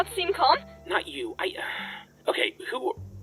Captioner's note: sigh